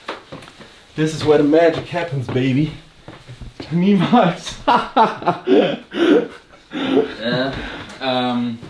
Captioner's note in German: gelächter; japst